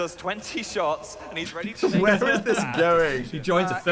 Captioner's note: both laughing